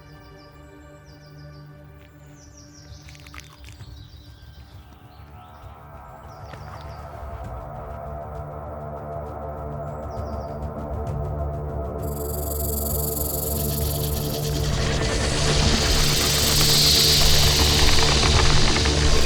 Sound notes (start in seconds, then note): 6.2 tense foreboding music; 12.0 snake hisses; 12.0 snake rattles